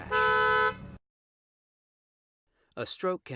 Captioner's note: honking